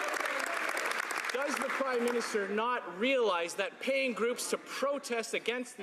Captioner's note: some Applause